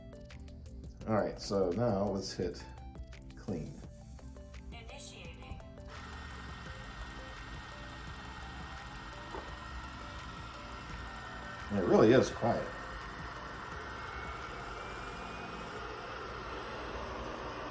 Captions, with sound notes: All right, so now, let's hit clean. - [Vacuum] Initiating. (vacuum whirring) - It really is quiet.